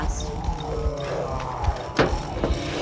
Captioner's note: growling